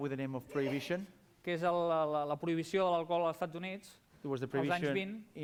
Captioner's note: non-english speech